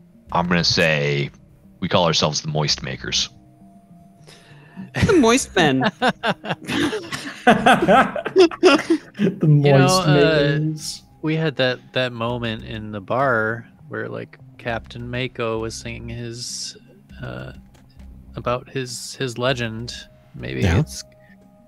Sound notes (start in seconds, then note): 5.5 everyone laughs